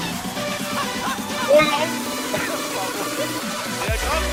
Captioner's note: laughing; upbeat music